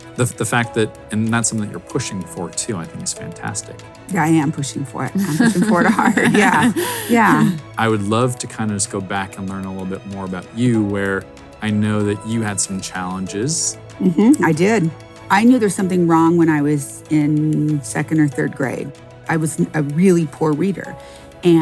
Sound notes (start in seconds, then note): 5.1 laughs